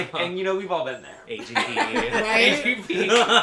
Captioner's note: laughter